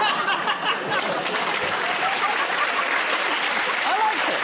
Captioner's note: laughter; applause